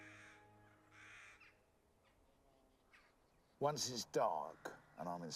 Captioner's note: birds squawking